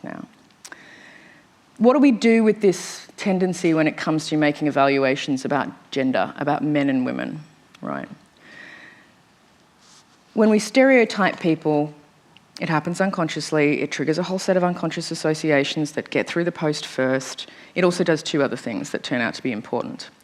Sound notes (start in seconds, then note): none